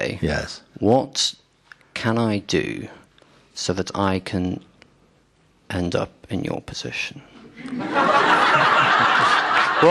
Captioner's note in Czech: Smích